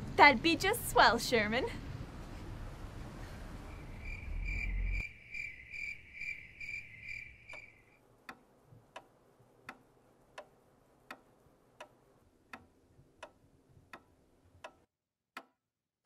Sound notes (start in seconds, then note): 3.6 crickets chirping; 7.6 clock ticking